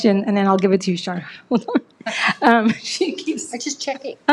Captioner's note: chuckles